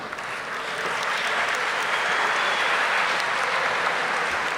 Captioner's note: audience applauding